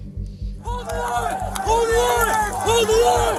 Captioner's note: shouting